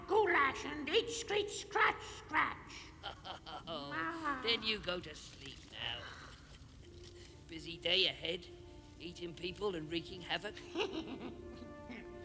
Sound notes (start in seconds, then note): 2.8 laughs; 10.7 laughing